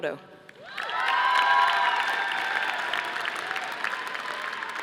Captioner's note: audience applauding